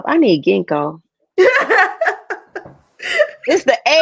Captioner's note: laughs